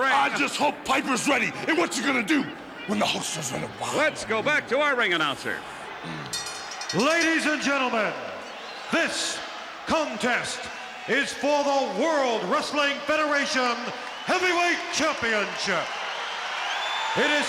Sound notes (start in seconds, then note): 6.3 bell rings; 15.5 crowd cheers